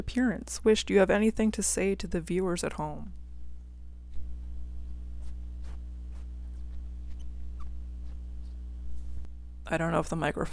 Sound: cat sniffing noises

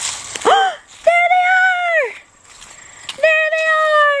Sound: gasps

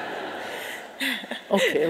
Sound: audience laughing

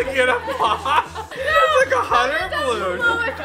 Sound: laughing

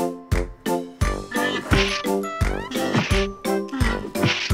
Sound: rhino growls

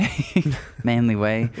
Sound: chuckles

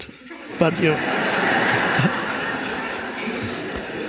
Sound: audience laughs

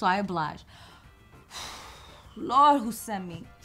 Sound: exhale

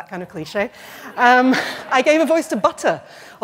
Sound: laughter

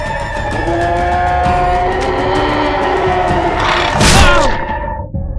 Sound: aggressive growl

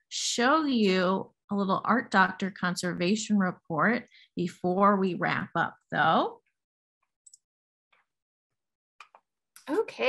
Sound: mouse click

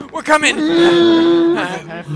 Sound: mad groaning

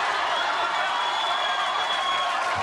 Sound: laughs

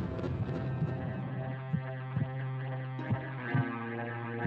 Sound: heartbeat gradually slowing

